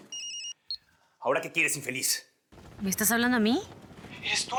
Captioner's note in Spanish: Suena el celular